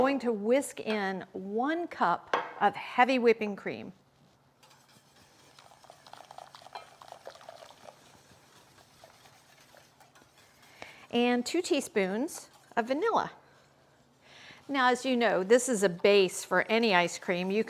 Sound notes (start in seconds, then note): 4.6 whisk whirring; 5.1 cream pouring